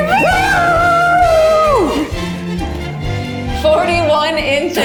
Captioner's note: screams; upbeat music